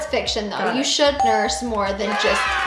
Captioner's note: ding, applause